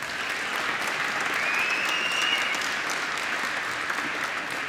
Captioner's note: applause